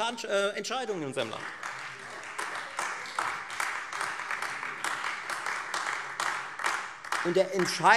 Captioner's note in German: Beifall Freie Demokraten und AfD